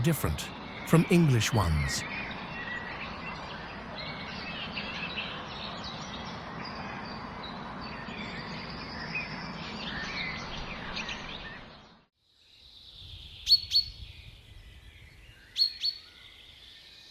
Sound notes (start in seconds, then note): 4.8 birds chirping